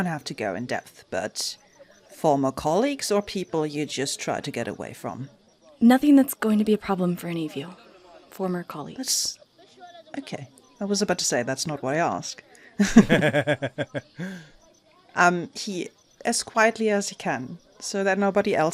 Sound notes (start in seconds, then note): 12.7 laughs